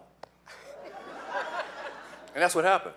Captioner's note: laughing